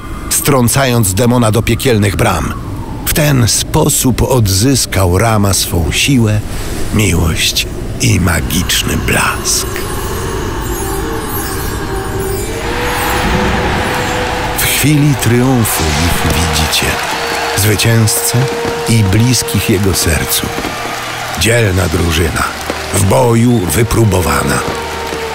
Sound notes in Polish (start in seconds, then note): 2.6 szum wiatru; 11.4 szum wiatru, świst